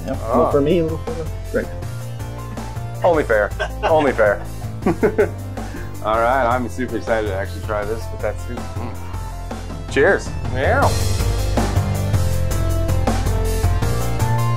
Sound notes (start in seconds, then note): 3.0 both laughing; 11.7 upbeat music